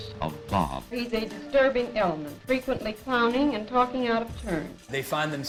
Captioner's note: woman speaks